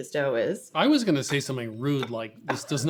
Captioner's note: laughs